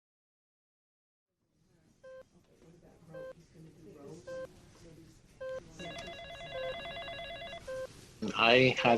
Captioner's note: beeping heart monitor